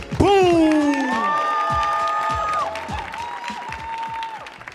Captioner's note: audience cheering